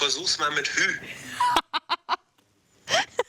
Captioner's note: laughs